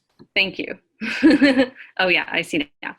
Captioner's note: laughs